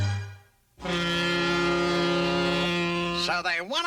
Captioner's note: honk